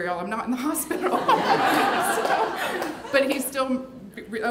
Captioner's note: laughing